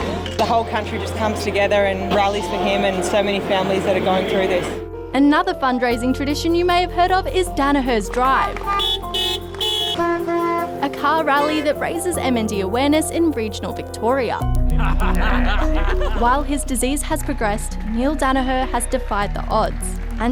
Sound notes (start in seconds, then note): 8.6 car horns toot; 14.7 laughs